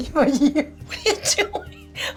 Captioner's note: giggling; laughing